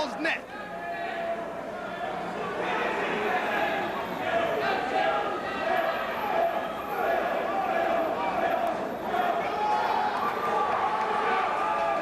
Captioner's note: crowd chatter